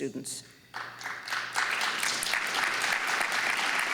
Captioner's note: applause